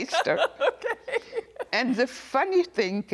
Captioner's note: laughing